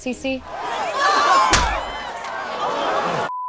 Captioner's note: people shouting